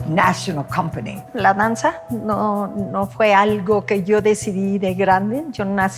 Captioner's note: speaking Spanish